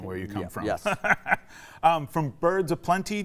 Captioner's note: laughing